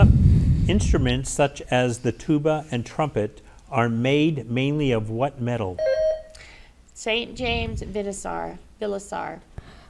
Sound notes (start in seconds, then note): 5.8 bell rings